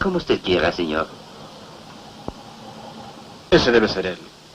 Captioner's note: car engine outside